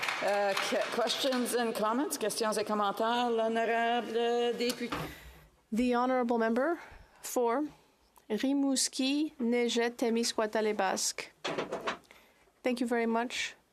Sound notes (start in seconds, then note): 7.5 speaking French